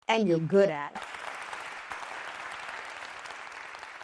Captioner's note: applause